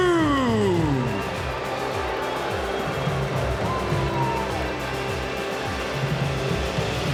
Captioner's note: crowd cheering; upbeat music